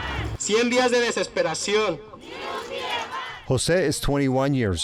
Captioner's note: marchers chanting